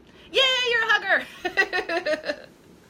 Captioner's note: laughing